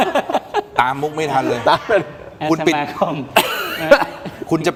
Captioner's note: laughs